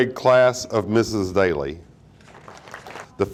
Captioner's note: audience applauding